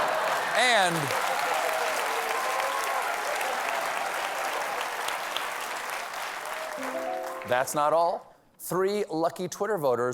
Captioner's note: cheers and applause